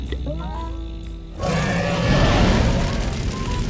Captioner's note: dragon roars